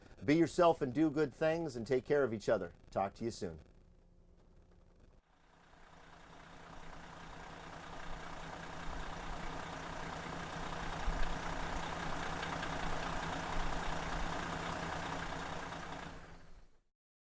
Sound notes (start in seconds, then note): 5.4 bus engine roaring